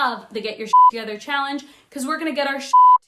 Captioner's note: beep